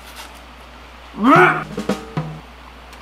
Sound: nearly pukes

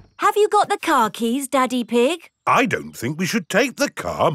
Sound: door rattles

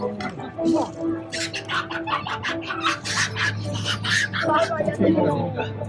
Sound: monkey screeching; upbeat music

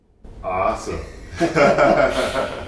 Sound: laughing

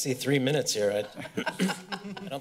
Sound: laughter

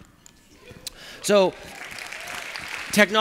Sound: applause

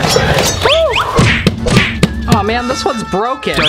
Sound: dramatic clanging and tearing

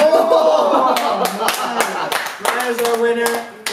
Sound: laughter

